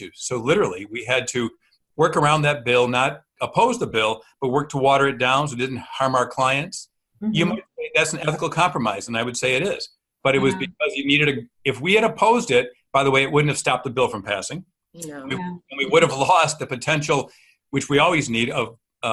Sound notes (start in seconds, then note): 15.0 murmuring agreement